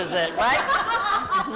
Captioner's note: laughter